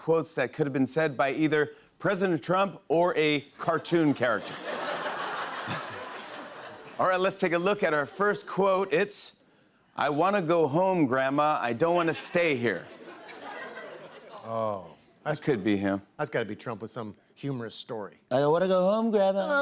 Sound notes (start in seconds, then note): 4.0 laughter